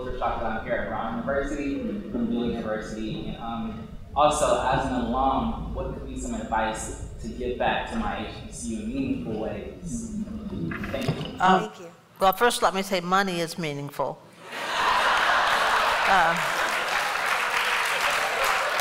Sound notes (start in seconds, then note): 14.4 laughter; 14.7 applause